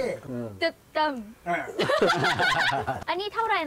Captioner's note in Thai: เสียงหัวเราะ